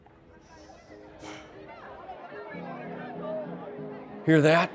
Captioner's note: crowd clamoring